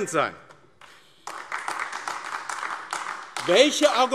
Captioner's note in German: Beifall AfD